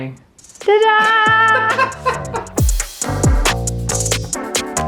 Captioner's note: laughing; relaxed music